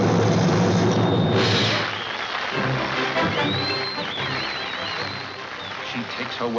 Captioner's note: audience applauding